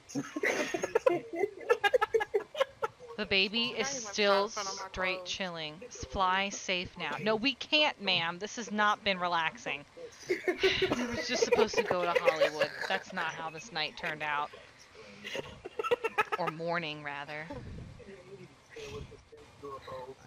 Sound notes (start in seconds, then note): 0.1 laughing; 10.2 laughter erupts